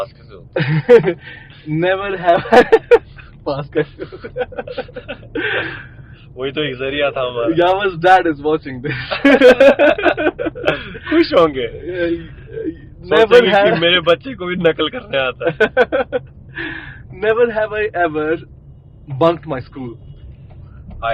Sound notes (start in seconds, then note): 3.7 laughs